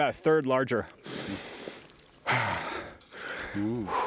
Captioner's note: sighs deeply